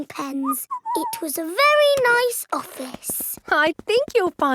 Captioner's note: whistles